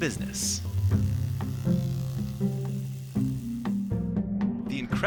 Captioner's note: trimmer whirring